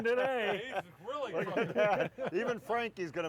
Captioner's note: all laughing